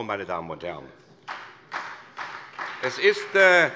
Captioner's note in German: Beifall SPD